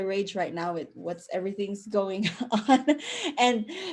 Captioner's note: chuckle